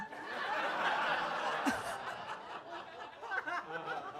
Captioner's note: audience laughs